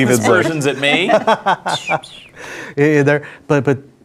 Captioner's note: laughing